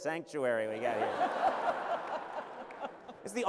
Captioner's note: laughter